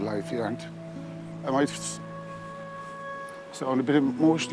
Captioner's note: holding back tears